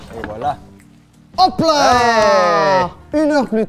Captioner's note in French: exclamations de joie